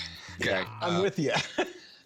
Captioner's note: chuckles